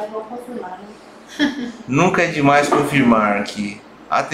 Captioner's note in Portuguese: risos